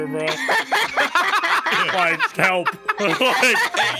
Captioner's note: all laughing